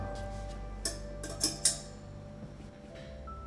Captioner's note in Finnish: metalli kilahtaa